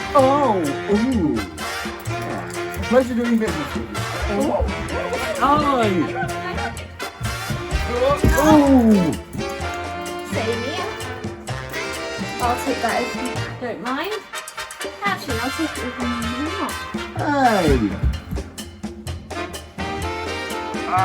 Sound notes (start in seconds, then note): 1.7 pompous comedy music; 5.7 Cramp laughs; 5.9 pompous comedy music; 13.3 pompous comedy music; 16.2 pompous comedy music